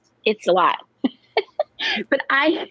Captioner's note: laughs